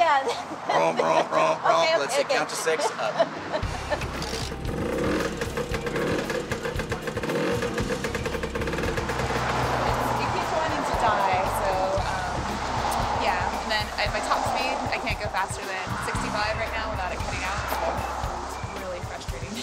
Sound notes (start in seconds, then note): 3.9 engine kick start